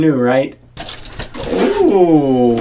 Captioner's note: bag rustling